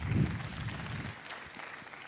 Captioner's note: applause